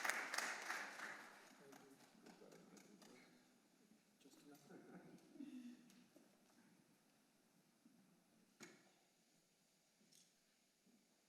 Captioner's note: applause